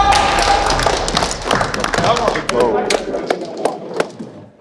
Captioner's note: all applauding